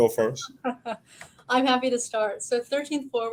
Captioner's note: laughing